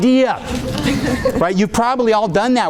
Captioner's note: audience laughing